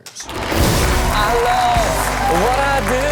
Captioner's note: audience cheering and applauding